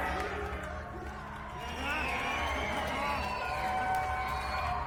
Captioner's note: cheers and applause